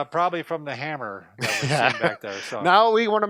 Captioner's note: laughing